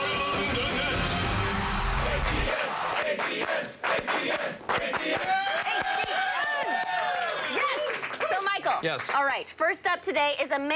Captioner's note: applause